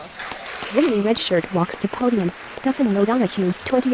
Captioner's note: applause